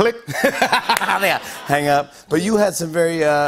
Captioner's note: laughter